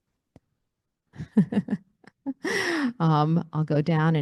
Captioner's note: laughing